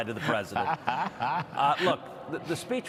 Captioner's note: laughter